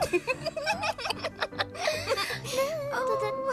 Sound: giggles; laughter

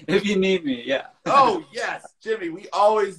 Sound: laughs

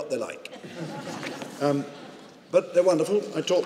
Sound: audience chuckling

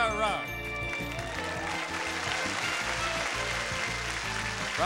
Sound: audience clapping

